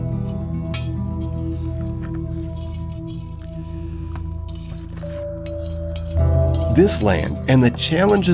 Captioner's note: scraping